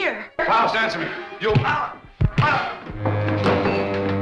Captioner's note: grunts; punches thudding; ominous music